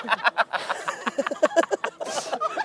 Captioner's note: laughing